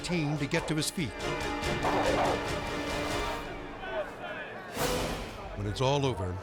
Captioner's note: dogs barking; people shouting